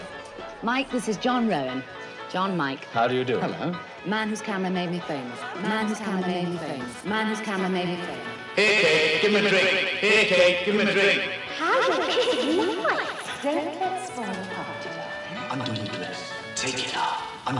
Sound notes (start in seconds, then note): 5.3 echoing; 8.6 distorted echo